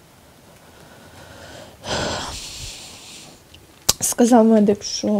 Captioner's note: sighs